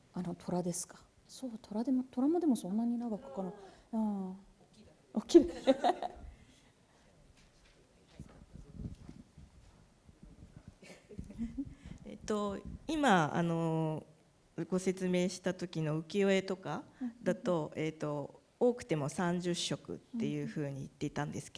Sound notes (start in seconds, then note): 0.2 speaking japanese; 5.4 laughter; 12.3 speaking japanese